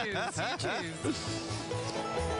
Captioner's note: laughing